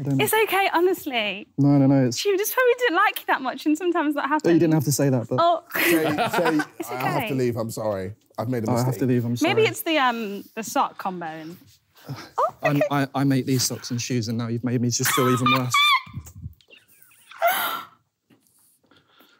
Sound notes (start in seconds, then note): 5.8 laughing